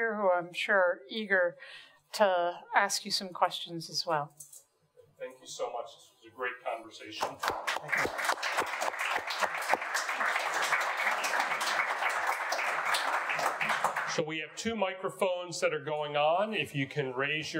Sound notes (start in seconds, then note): 7.2 audience applauding